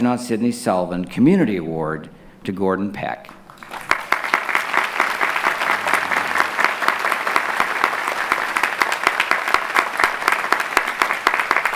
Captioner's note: clapping